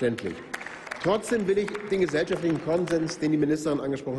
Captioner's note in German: Applaus